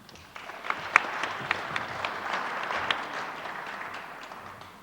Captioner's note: audience applauds